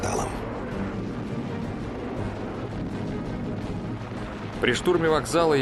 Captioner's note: sounds of battle